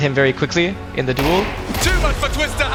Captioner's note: gun firing